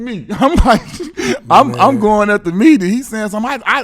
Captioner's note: laughs